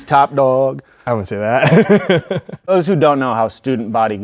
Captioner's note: laughs